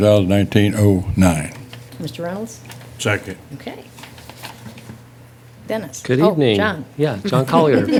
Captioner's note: laughter